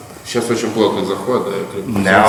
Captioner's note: speaking in a foreign language